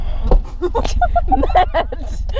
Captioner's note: laughter